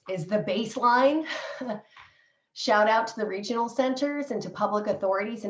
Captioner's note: laughter